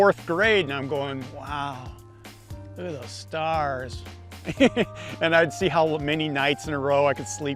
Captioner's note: laughs